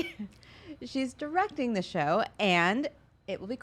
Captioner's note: laughs